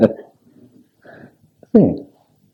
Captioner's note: laughs